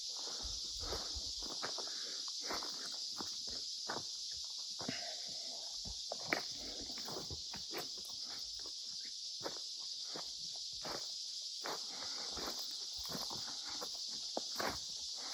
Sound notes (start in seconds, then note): none